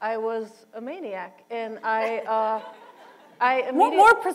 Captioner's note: laughter